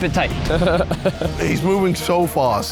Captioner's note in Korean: 웃음